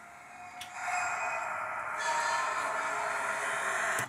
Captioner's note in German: Unbehaglich-schleifendes Geräusch